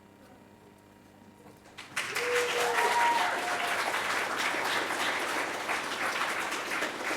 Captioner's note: audience applauding; audience cheering